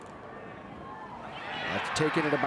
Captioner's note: spectators cheering